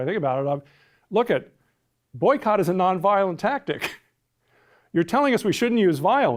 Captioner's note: laughs